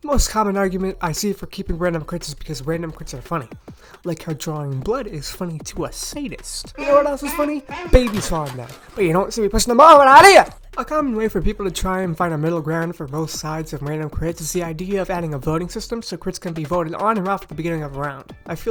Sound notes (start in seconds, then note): 6.7 baby sounds; 6.7 baby falling sounds